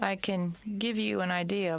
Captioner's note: speaking french